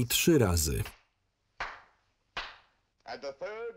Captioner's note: three claps